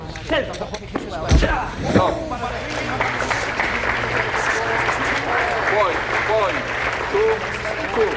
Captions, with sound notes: 10! (groans) (Arthur narrates in distance) (crowd applauds) - One, one, two, two.